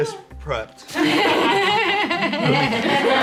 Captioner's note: everyone laughs